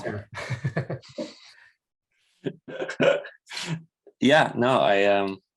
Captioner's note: laughs